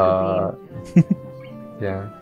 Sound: chuckles

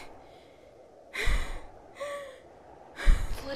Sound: gasping

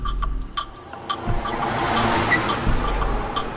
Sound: vehicle Passing Sound

